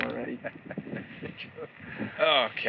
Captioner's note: chuckles